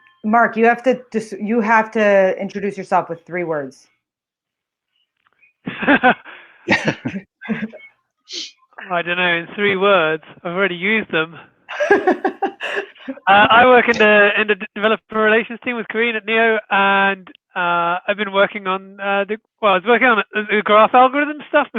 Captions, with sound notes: - Mark, you have to introduce yourself with three words. (laughing) - I don't know in three words. I've already used them. (laughs) I work in the developer relations team with Karin at Neo, and I was working on new graph algorithm stuff